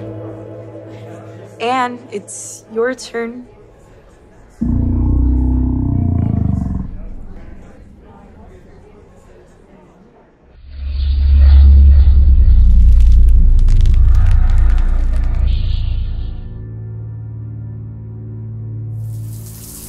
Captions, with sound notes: Anne, it's your turn (deep growl)